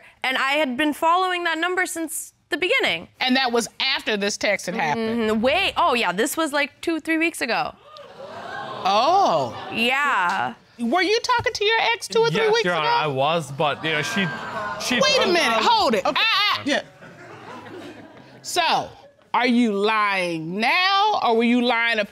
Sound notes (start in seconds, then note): 7.8 audience gasp; 16.8 audience chuckle